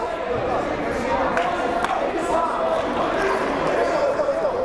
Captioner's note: crowd murmuring